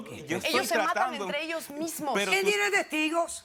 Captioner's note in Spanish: Hablan al unísono